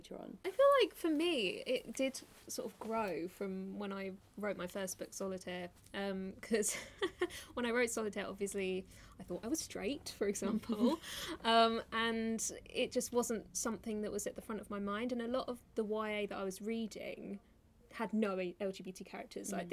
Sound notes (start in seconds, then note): 6.2 laughing